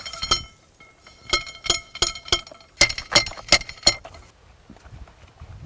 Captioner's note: metal clanging